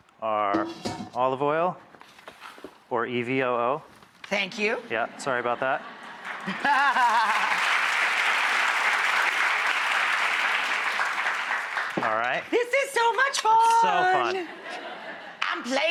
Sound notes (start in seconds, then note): 5.5 laughing; 6.0 audience clapping